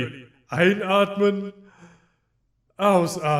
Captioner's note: exhale; inhale